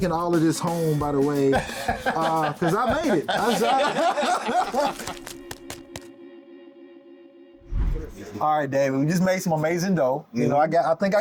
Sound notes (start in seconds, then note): 1.5 both laughing; 1.5 laughing; 4.6 gentle music